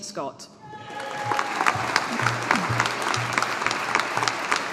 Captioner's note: audience applauding